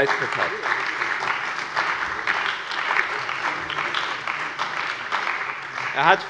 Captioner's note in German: Allgemeiner Beifall